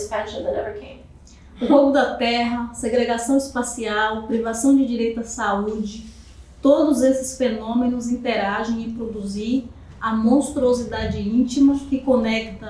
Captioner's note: speaking portuguese